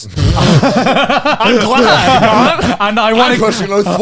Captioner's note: all laughing